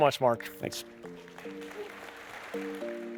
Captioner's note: applause